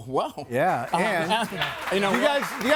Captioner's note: audience applauds